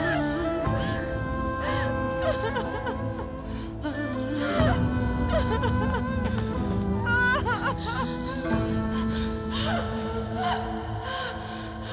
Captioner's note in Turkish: Ağlama sesleri